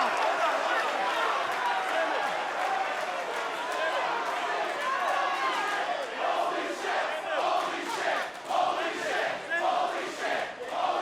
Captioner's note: crowd cheering